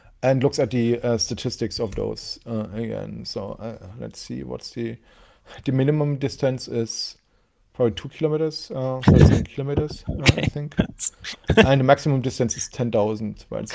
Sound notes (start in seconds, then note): 9.0 laughs